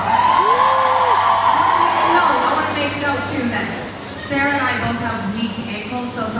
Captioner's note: cheers